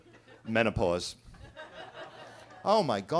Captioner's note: attendees laughing